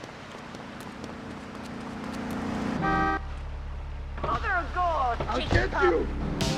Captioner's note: sirens wailing